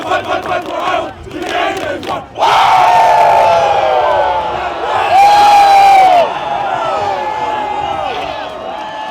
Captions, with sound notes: THE WORD IS FIGHT FIGHT FIGHT FOR IOWA, UNTIL THE GAME IS WON! (cheering)